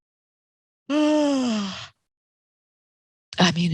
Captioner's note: yawning